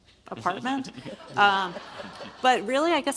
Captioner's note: audience laughs